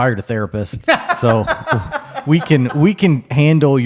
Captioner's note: laughs